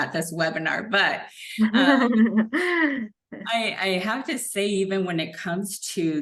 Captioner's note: laughter